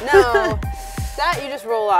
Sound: laughs nervously

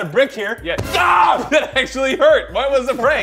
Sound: screams

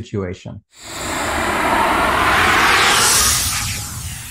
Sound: air whooshing

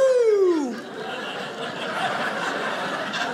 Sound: audience laughing

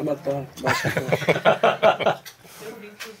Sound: laughing

